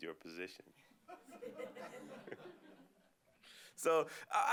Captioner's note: laughter